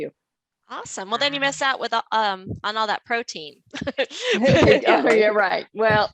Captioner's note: laughs